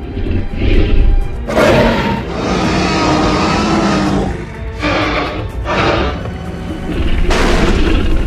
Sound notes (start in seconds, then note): 3.3 roaring; 7.2 crash sound